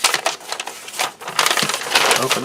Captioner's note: paper crinkles